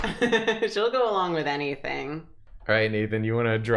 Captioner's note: laughs